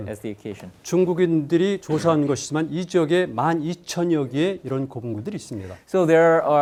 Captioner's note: speaking in Korean